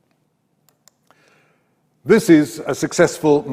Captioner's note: mouse clicks